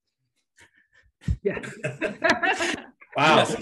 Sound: all laugh

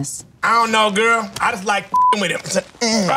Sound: beep

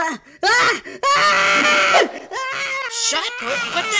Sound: Nacho continues freaking out

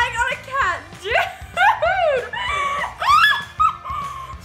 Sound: laughing

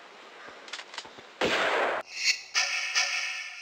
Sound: bam

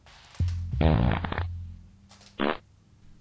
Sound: fart

